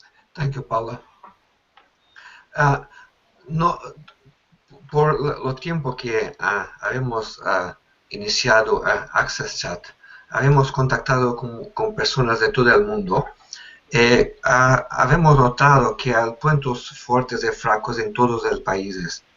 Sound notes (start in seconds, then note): 6.1 speaks Spanish